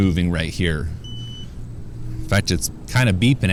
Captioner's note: beeping